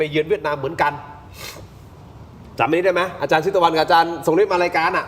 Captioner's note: sigh